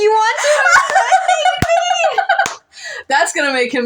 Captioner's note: cackle